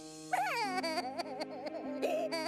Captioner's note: sobbing